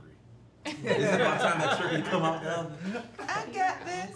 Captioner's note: family laughing; overlapping chattering